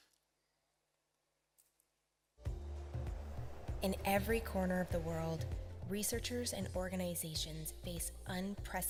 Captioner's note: video audio Playing